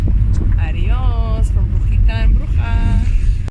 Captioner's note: speaking Spanish